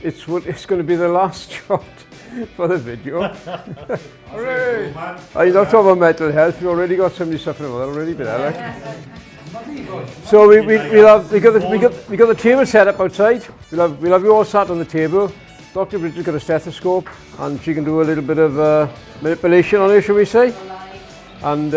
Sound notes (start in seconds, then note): 2.2 laughing; 7.9 laughing